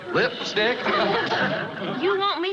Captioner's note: chuckles